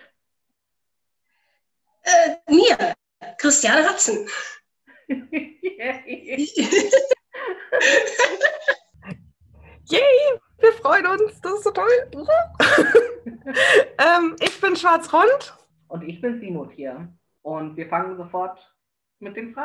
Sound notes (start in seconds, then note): 4.3 everyone laughs